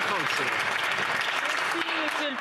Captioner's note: some Applause